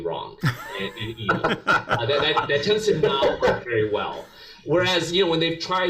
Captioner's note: laugh